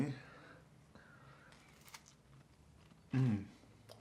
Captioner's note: eating cookie